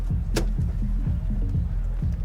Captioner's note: car door opens